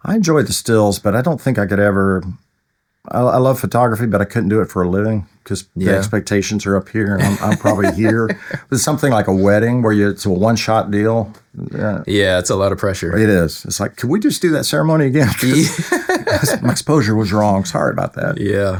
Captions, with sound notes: I enjoy the stills, but I don't think I could ever, I love photography, but I couldn't do it for a living because the expectations are up here and I'm probably here. There's something like a wedding where it's a one shot deal. Yeah, it's a lot of pressure. It is. It's like, can we just do that ceremony again? (Laughing) My exposure was wrong, sorry about that. Yeah.